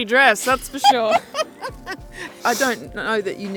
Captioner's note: laughing